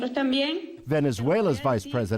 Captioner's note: speaking spanish